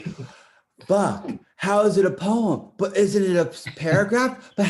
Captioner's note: laughs